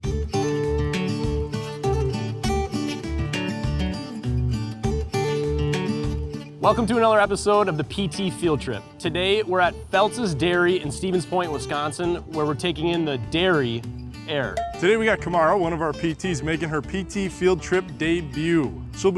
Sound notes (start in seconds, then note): 1.2 country music; 14.5 cowbell dings